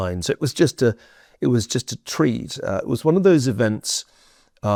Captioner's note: none